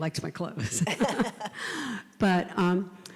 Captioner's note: laugh